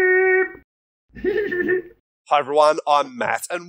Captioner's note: Scruff laughs